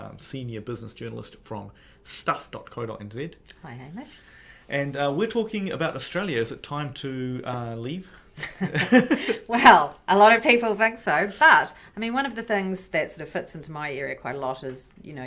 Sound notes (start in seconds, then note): 8.4 laughter